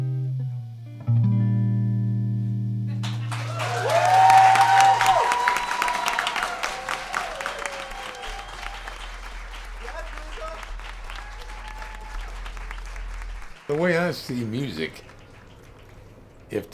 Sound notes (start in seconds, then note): 3.0 applause